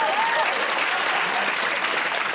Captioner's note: cheers and applause